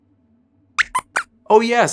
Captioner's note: squeaks squeaks